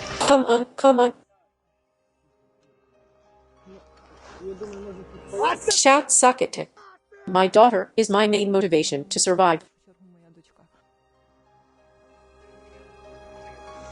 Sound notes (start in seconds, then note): 5.7 shout